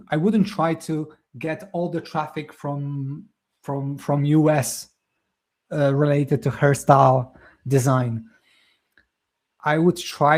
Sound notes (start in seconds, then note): none